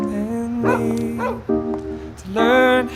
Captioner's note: dog bark